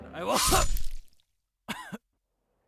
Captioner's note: stabbing sound; coughing